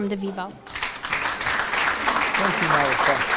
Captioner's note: cheering and applause